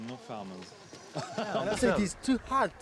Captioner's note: laughing